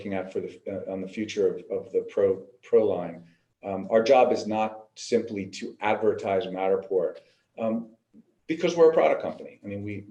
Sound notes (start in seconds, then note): none